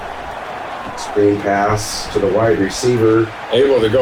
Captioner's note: crowd Noises